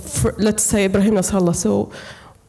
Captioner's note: speaking Arabic name